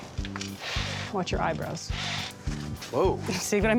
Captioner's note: blowing; blowing sound